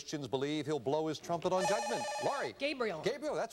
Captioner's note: buzzer